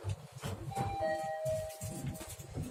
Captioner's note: chime